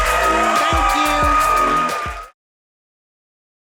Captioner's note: audience cheering